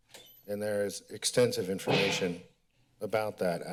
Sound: bang

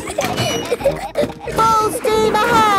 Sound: giggling

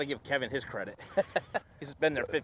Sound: laughs

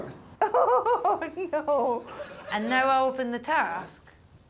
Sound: laughs

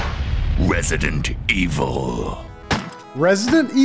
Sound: game audio

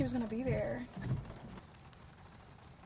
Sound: window wipers swishing; rain drizzling

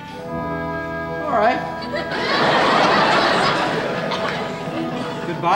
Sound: audience laughing

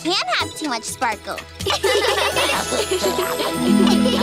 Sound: laughing

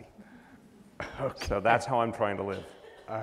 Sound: laughs

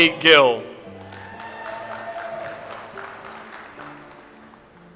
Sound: audience applauds

